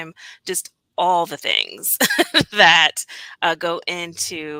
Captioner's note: laughter